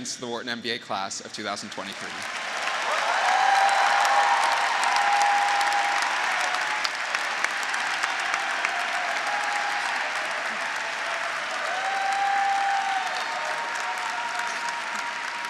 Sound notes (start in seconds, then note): 2.6 graduates cheering; 5.4 graduates, audience, and faculty applauding